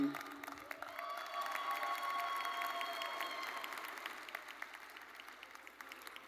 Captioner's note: audience cheering and applauding